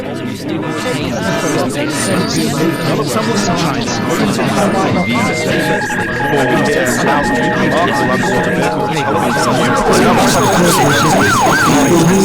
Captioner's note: people speaking and noises